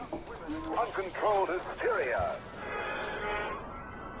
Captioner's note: radio Voice